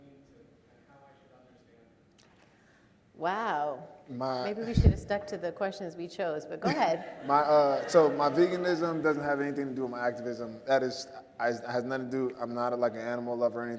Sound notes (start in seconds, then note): 6.8 audience laughing